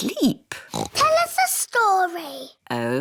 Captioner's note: oinks